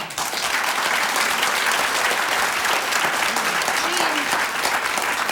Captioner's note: audience applause